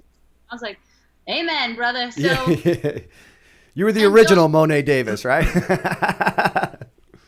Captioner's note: chuckle